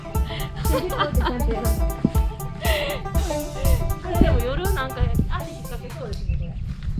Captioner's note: laughs